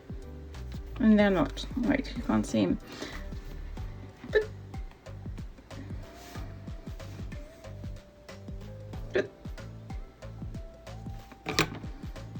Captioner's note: making weird noises as to not get discouraged